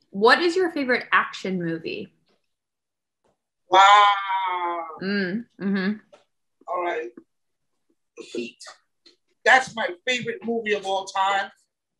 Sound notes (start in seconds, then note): 5.6 mmms